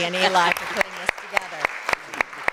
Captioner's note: applause